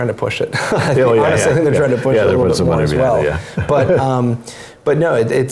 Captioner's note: laugh